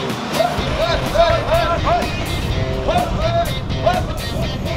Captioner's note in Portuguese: gritos